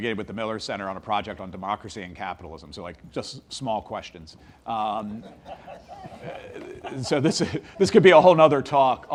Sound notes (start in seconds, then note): 5.0 audience laughs